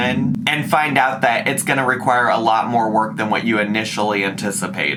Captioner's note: none